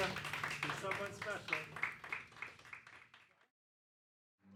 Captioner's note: applause